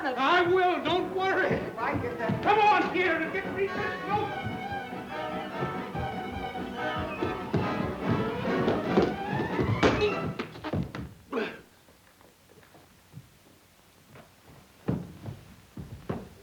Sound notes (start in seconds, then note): 3.1 dramatic music; 10.0 ball thuds